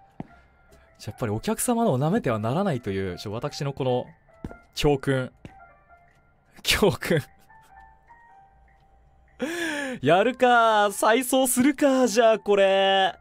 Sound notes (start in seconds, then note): 9.4 inhales